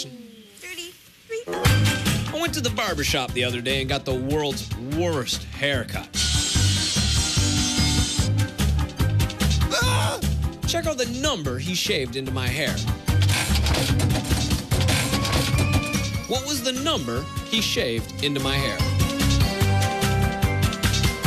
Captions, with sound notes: - 30...PLEASE. - I WENT TO THE BARBER SHOP THE OTHER DAY AND GOT THE WORLD'S WORST HAIRCUT. [buzzing] AAH! CHECK OUT THE NUMBER HE SHAVED INTO MY HAIR. WHAT WAS THE NUMBER HE SHAVED INTO MY HAIR?